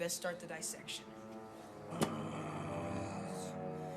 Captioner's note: growls; both grunting